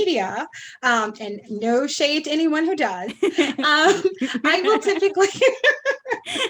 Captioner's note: aughs; laughs, holding her hand up